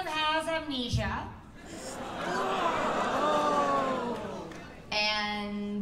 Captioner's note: oohs and aahs